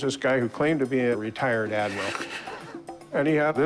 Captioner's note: laughs